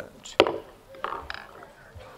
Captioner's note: gavel pounds